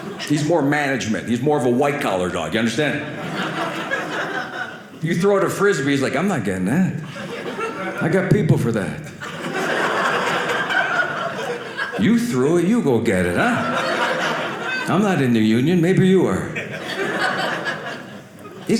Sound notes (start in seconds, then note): 2.8 audience laughing; 9.0 audience laughing